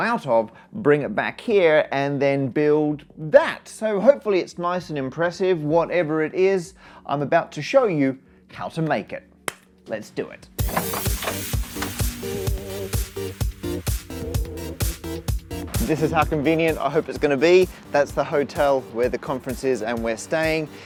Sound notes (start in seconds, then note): 9.4 clap